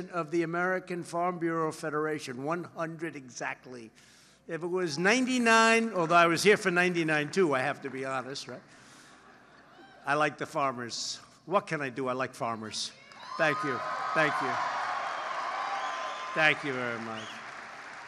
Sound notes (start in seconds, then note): 13.1 applause